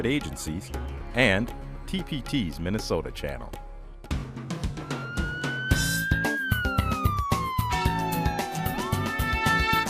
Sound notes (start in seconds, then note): 4.7 a siren wails